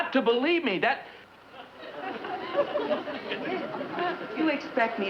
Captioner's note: audience giggles